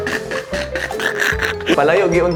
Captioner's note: chuckles